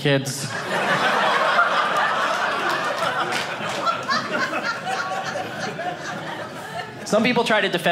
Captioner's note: audience laughing